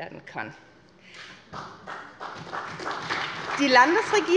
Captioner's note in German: Beifall bei der SPD